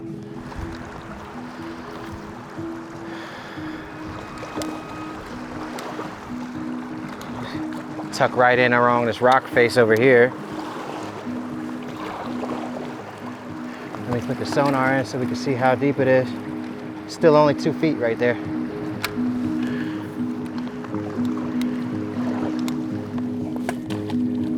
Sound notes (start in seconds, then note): 0.3 gentle piano music; 4.2 water splashes; 20.4 gentle piano music continues